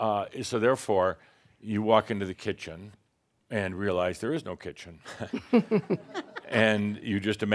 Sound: chuckles

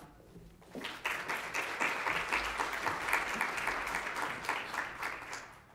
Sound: audience applauds

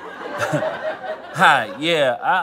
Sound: audience laughter; chuckles

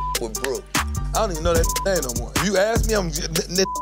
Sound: beep; beep; beep

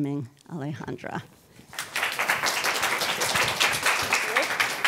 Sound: audience applauding

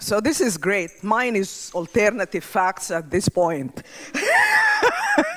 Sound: laughs

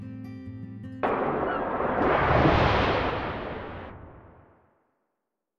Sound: crashing waves and sea gulls

